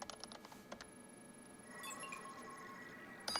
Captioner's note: alarm; bell